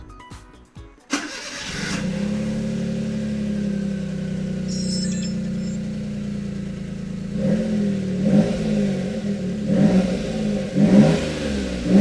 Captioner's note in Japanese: エンジン音